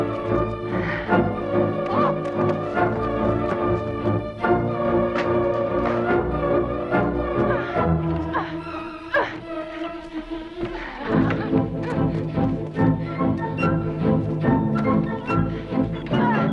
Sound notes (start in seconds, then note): 8.7 Hundra grunting